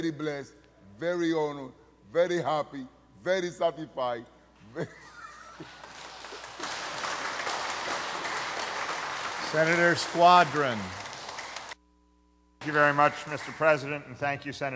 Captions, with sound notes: very pleased, ladies and gentlemen, very honored, very happy, very satisfied, very -- [ laughter ][ applause ] >> Senator squadron. >> >> Thank you very much,